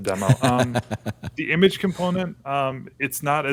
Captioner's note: laughter